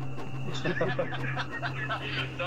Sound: laughter

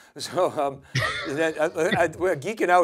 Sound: laughs softly

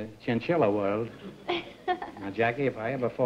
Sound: laughs

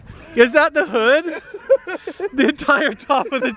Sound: laughing

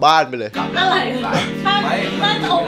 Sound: chuckles

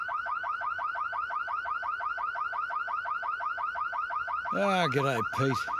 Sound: car alarm blaring

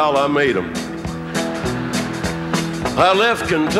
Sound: audience laughing

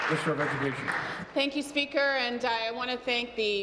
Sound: applause

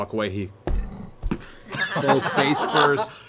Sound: laughing

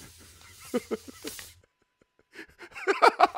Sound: laughing

